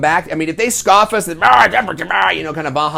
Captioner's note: makes grumbling noises